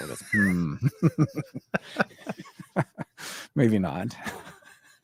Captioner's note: both laughing